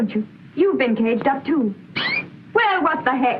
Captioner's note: tweet